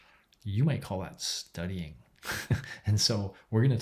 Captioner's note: laughs